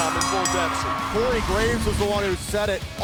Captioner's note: bell ringing